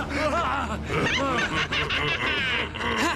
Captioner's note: laughs evilly